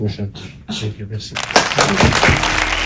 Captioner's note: applause